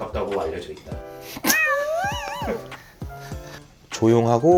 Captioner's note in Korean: 야옹